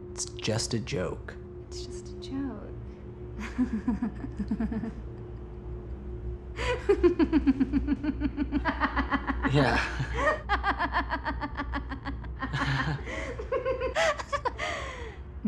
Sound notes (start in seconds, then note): 3.4 laughs; 6.8 laughing becomes sinister; 9.8 laughs uneasy; 10.5 sinister laughter; 12.5 uneasy laughter; 13.9 sinister laughter